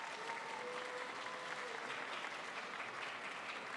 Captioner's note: crowd applauds